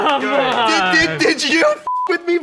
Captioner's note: beep